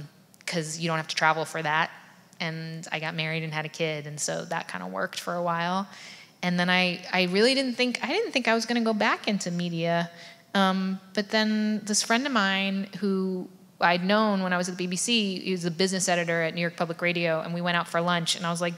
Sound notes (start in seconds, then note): none